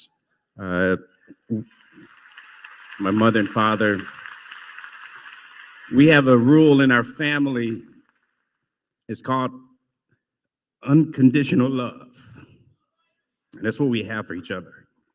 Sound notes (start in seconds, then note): 1.4 applause